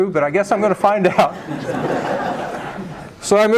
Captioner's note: laughter